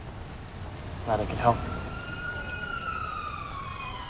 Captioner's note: police sirens wailing